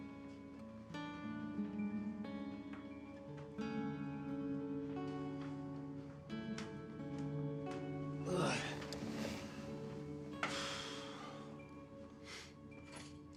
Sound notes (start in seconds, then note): 0.2 soft melancholic music; 8.2 Abe groans and sighs